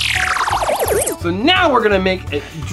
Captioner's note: futuristic noise